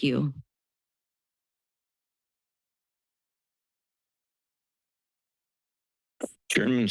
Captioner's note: silence